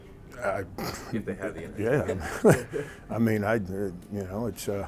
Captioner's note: soft laughter